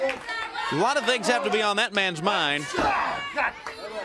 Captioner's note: crowd chatter